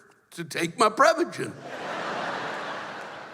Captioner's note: laughter